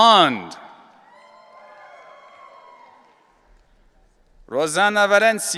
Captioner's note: audience cheering